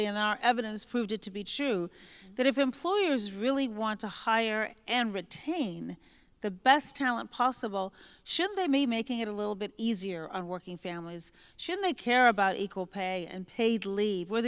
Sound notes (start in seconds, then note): none